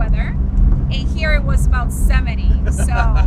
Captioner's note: laughs